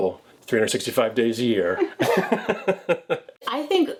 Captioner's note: laughs